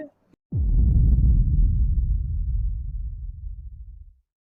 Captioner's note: boom